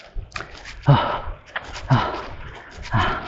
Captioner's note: panting